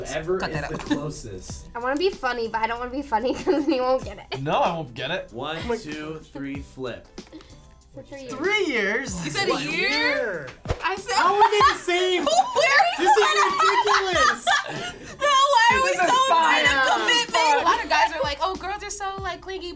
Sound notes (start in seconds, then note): 11.2 laughter